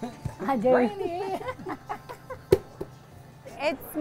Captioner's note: laughs